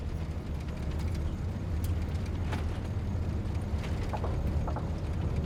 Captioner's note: engine clatters